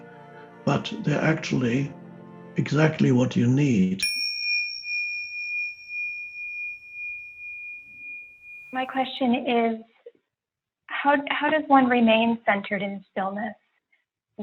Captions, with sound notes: but they're actually exactly what you need. (bell dinging) - My question is, how does one remain centered in stillness